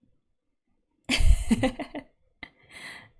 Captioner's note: laughs